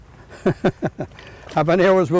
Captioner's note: laughs